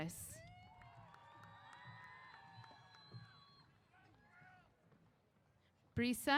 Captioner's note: applause & Cheers